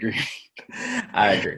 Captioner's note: laughs